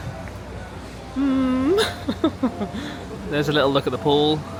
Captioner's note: chuckles